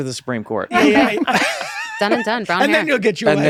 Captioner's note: laughter